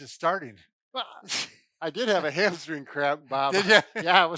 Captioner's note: scoffs